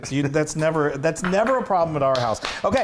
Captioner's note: laugh